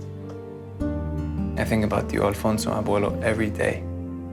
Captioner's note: speaking Spanish